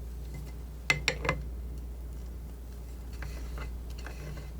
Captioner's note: scratching